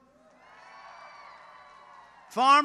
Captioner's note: applause